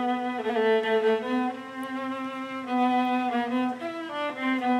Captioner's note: none